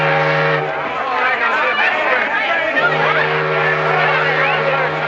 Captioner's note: crowd clamoring